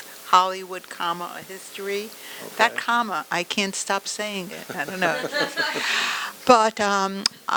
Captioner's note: audience laughter